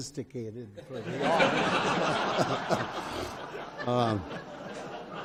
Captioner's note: audience laughs